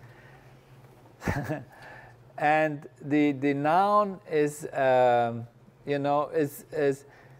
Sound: laugh

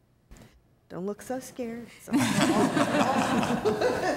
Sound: laughter

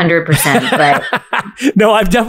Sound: laughs

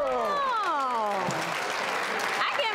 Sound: audience clapping

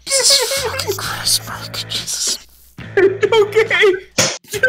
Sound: giggling madly

